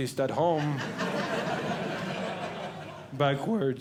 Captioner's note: audience Laughing